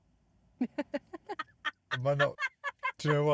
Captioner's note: laughing